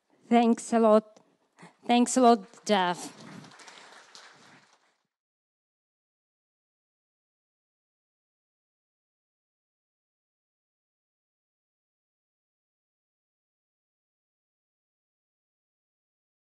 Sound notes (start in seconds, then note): 4.3 applause